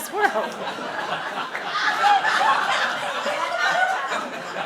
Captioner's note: laughing